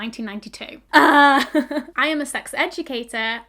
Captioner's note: awkward laughing